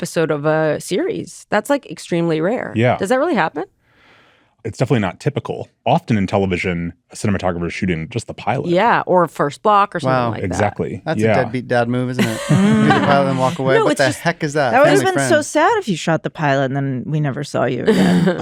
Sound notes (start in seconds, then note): 12.1 laughter